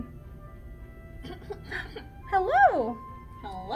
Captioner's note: throat clearing